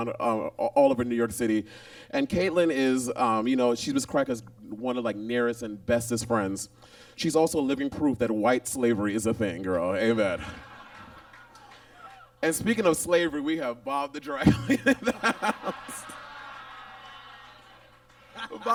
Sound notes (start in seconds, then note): 10.3 audience laughs; 14.5 Monet laughs